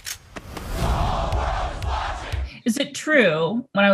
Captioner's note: crowd